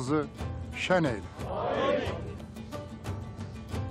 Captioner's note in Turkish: Hep bir ağızdan